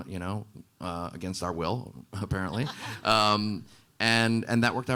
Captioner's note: panelists laughing